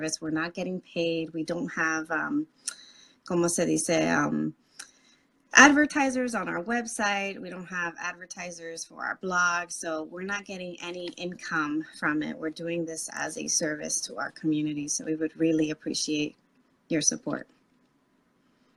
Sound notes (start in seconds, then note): 3.2 speaking Spanish